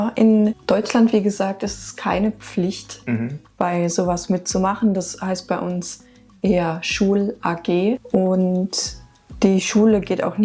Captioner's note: laughs